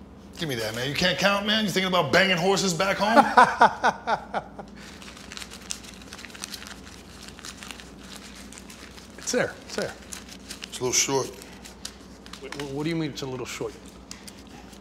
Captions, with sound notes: Give me that, you can't count, man? You are thinking about banging horses back home? [LAUGHING LOUD] It's there, it's there It's a little short What do you mean it's a little short?